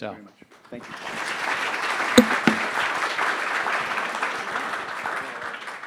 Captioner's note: audience applauding